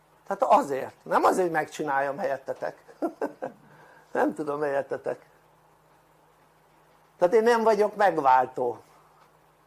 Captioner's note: laughter